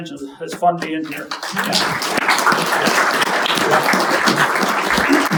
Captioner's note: audience applauding